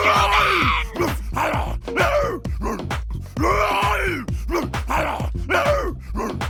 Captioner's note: Mon-Gor gibbering and thumping chest